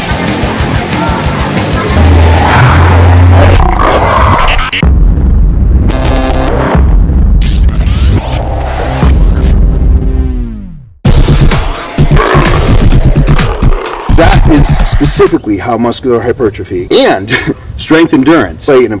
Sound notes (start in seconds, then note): 1.8 growl. Electronic sounds; 12.0 slams and growls; 17.3 chuckles